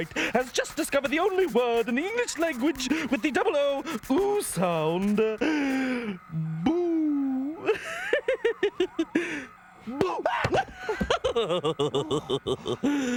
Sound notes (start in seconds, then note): 7.6 chuckles; 10.3 screams; 11.8 laughs